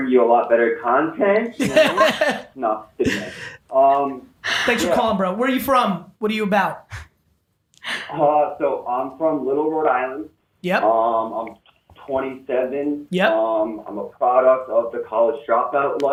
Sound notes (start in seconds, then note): 1.6 all laughing